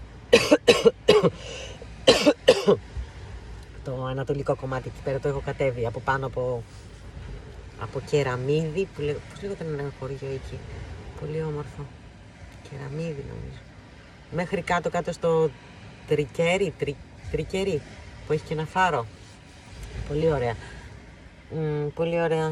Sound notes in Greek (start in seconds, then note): 0.3 βήχας